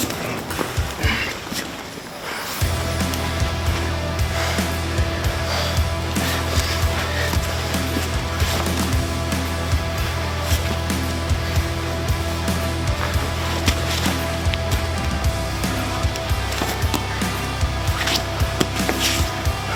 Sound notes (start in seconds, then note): 0.9 grunts; 2.7 intense upbeat music; 4.6 both breathing heavily